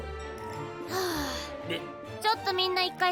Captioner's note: sighs